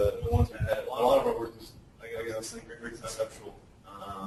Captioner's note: distorted speech